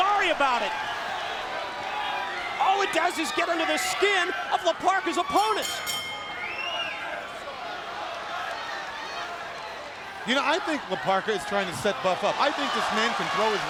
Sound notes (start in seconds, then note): 5.3 bell ringing; 9.5 crowd chatter